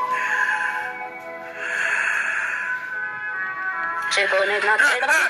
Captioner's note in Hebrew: השעון המעורר מצלצל